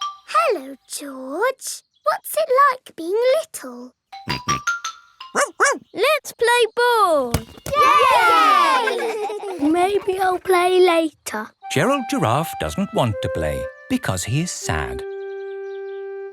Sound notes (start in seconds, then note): 5.3 barks; 5.4 snorts; 7.7 all cheering and laughing